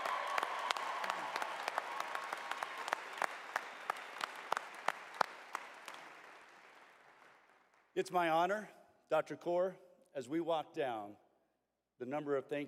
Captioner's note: cheers and applause